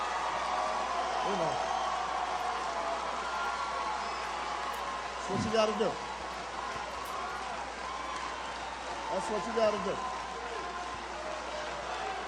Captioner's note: applause